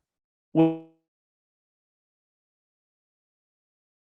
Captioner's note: audio cuts out